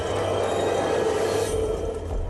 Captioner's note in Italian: Applauso